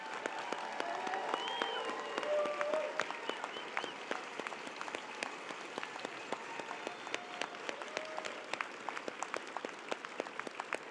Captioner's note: applause